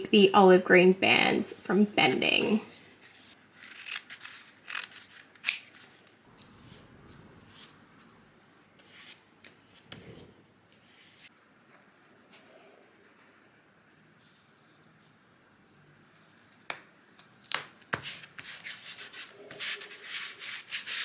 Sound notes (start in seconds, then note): 3.7 scissors snip; 6.3 brush strokes